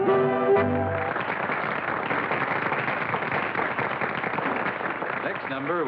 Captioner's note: applause